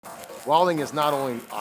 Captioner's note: sizzle noise